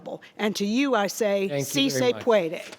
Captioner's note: speaks foreign language